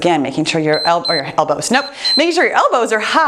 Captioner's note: timer beeps